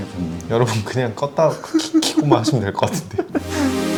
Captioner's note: laughs